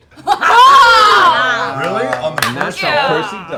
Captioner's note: cheering